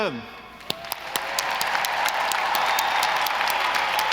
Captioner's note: audience applauding